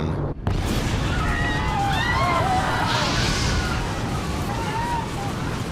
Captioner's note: passengers screaming